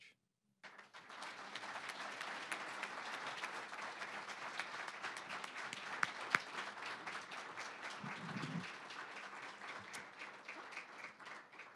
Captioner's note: applause